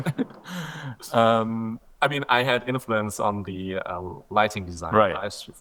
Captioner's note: laughing